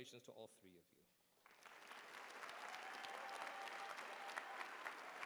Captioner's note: cheering